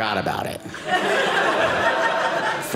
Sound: audience laughing

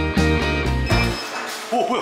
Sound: beep

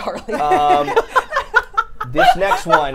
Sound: laugh

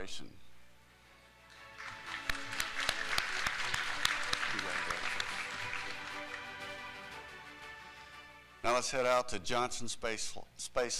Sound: applause

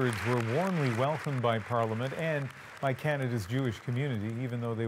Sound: applause

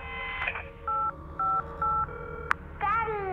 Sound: line beeping, ringing

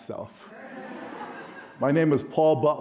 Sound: laughing

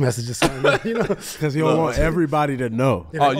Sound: laughs

